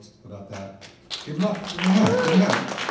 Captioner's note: people clapping